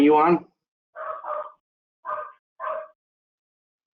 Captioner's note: dog barking